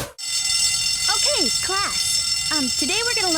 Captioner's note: bell ringing